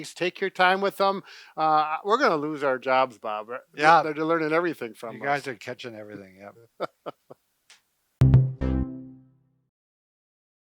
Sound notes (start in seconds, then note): 6.5 laughs; 8.2 outro beat